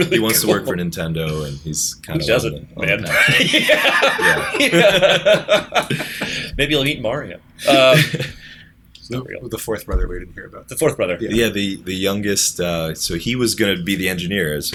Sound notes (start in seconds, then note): 6.0 laughter